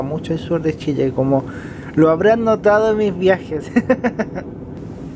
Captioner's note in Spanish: risas